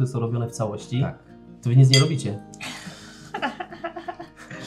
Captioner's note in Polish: śmiech